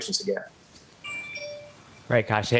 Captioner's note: cellphone buzzing